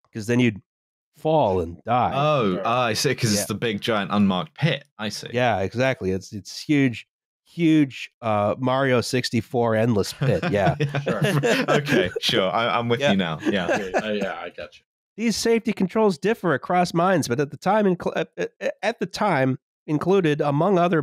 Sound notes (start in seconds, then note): 10.1 laughs; 14.9 laughs